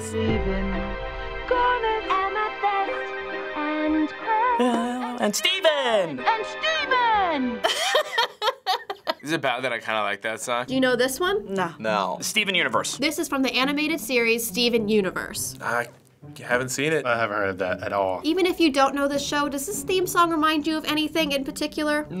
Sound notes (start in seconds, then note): 7.6 laughs boisterously